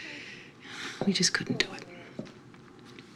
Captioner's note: sighs